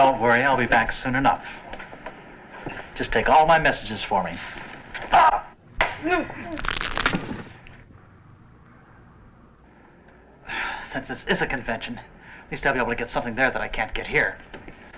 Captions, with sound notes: - Don't worry, I'll be back soon enough. Just take all my messages for me. (grunts) (bones crack) Since this is a convention, at least I'll be able to get something there that I can't get here.